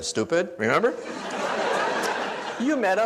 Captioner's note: audience laughs